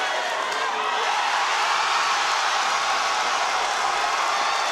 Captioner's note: audience cheering